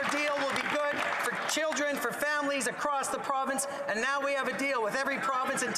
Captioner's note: some Applause